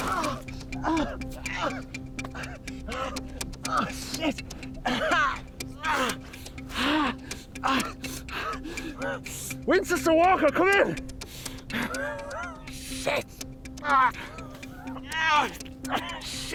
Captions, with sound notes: (body thuds) (Jim groaning) - Oh, shit. (groaning) Winters to Walker, come in. Oh, shit. (Jim groaning)